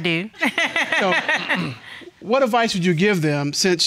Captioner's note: laughing